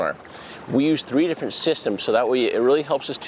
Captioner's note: electronic beeping